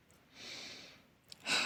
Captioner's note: breaths in; sighs